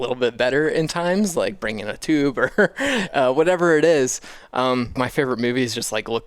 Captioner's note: laughs